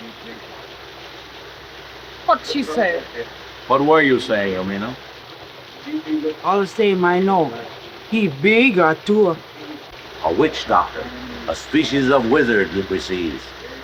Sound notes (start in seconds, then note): 7.9 speaks foreign language